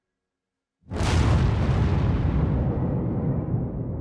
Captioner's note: loud explosion